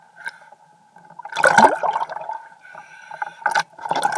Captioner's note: water splashing